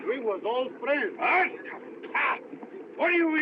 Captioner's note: spits